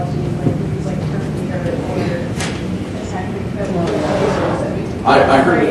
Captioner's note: faintly speaking